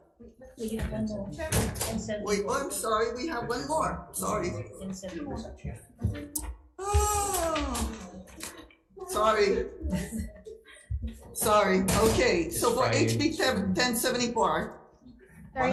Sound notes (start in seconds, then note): 5.3 staff chattering